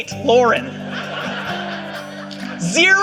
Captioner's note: audience laughing